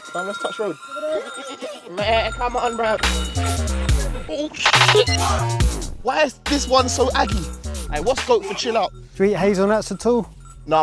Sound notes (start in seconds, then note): 0.8 goat noises